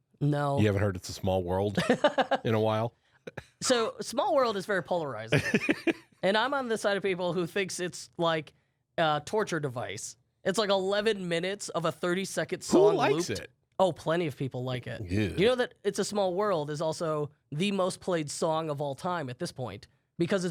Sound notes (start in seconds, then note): 1.7 laughs; 5.3 laughs